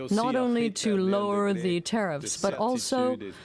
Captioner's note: speaking french